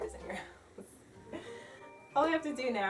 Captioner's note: laughs